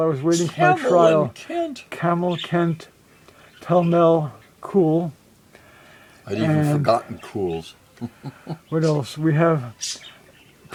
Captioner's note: laughs